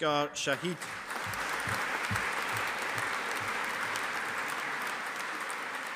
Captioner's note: audience applauding